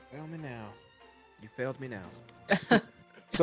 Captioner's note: snickers